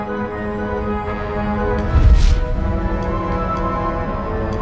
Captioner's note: none